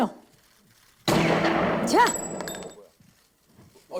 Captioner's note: gunshot